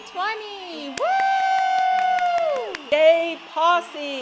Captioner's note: all cheer